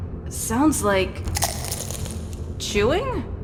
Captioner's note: crunch